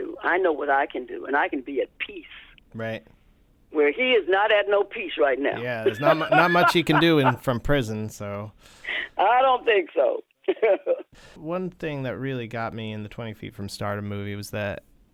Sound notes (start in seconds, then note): 5.8 laughter